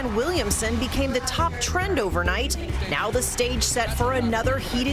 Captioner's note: applause